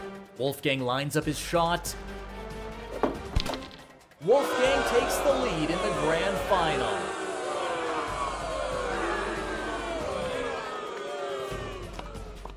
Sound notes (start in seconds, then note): 6.7 audience boos; 8.5 dramatic music